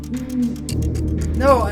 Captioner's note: low pitched hoot